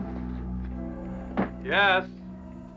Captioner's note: knock on door